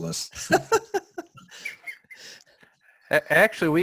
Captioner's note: laughs